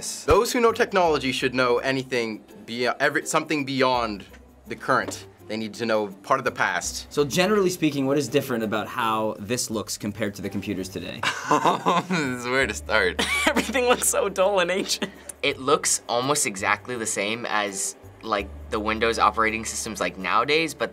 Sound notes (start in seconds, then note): 11.2 chuckling; 11.2 laughing